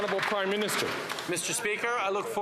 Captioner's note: some Applause